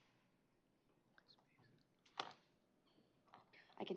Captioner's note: whispers